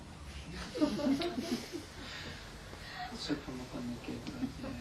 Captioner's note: audience laughter